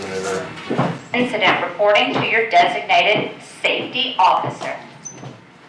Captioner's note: voiceover